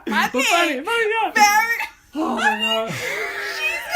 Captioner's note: laughter and crosstalk